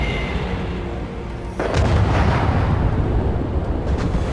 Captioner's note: rumbling